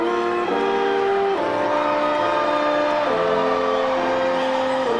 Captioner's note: audience cheering